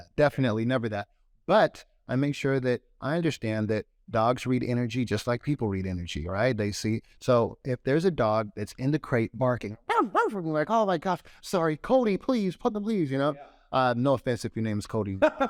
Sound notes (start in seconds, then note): 9.8 barks